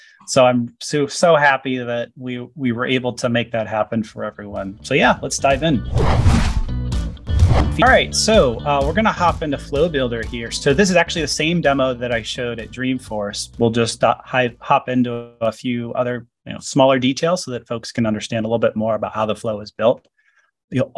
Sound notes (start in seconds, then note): 5.8 whooshing; 6.0 upbeat music